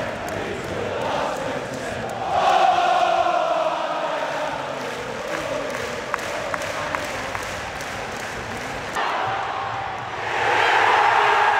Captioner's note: applause